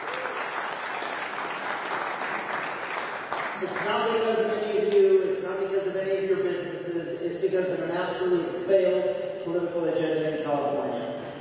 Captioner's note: applause